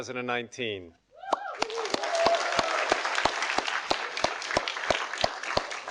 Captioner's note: audience applauding